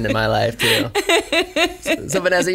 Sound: laughs

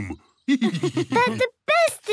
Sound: laughs

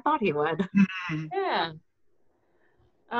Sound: laughs

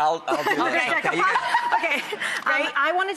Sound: laughing

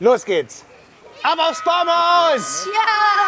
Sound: cheering

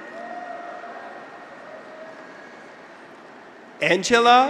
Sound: graduates cheer

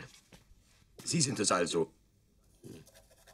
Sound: in German; in German

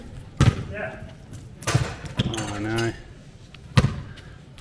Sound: crashing sound of the ball landing in the toolbox

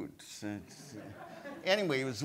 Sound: audience laughs

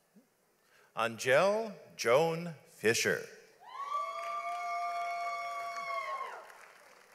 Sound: audience applauds

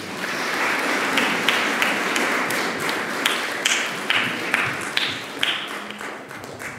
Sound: applause

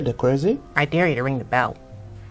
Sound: mysterious sounds are heard

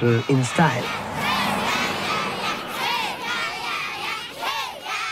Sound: children yelling

